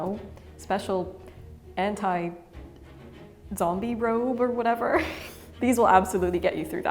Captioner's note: chuckles